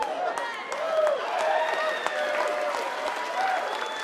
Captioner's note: audience cheering